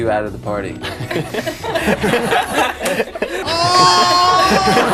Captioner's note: excessive laughter